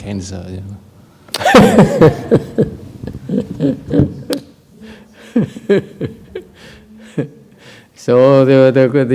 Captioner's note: laughter